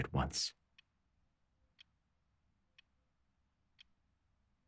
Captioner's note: clock ticking